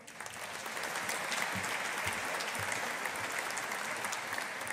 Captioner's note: audience applauding